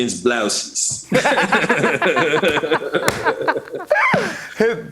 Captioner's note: laughter